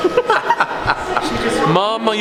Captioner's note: laughing